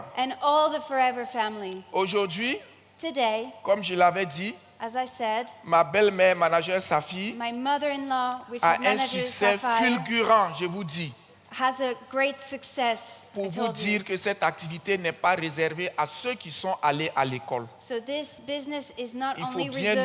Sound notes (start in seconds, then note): 1.9 continues in French; 9.9 continues in French; 14.7 continues in French